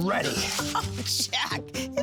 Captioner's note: laughs